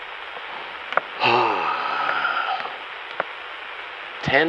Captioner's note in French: James Cross pousse un énorme soupir